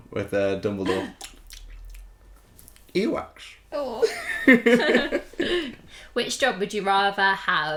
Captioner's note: mimics Chewing